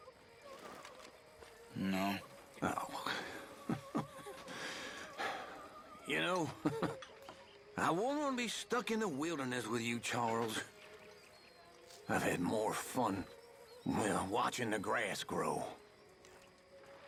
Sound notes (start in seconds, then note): 6.0 laughs quietly